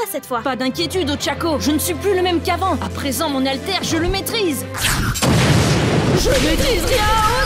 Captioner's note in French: explosion de fouet